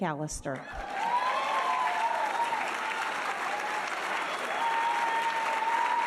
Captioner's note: audience cheering and applauding